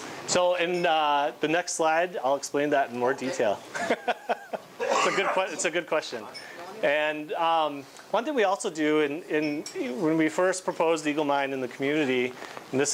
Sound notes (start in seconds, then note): 3.7 laughing